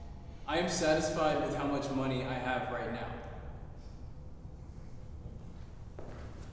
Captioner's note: offscreen voice